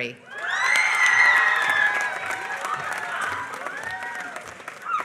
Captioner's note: applause